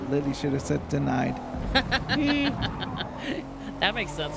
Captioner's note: laughs